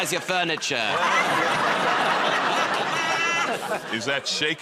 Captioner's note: laughter